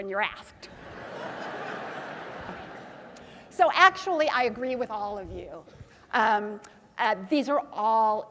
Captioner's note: laugh